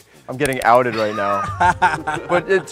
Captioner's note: laughs